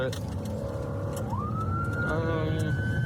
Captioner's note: siren blaring